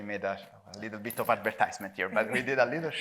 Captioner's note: chuckles